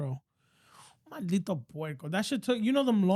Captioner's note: speaking In Foreign Language